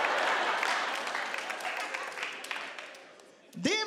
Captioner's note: audience clapping